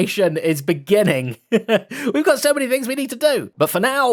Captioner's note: laughs